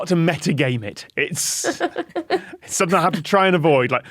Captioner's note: giggles